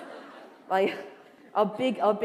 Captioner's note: laughter